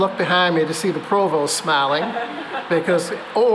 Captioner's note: laughter